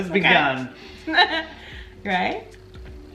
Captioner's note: laughing loudly